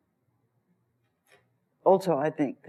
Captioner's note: pause